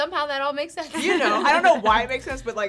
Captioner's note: laugh